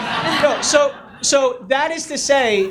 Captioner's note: audience laughs